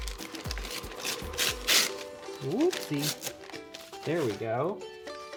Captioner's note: paper tearing